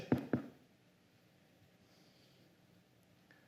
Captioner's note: golpea ligeramente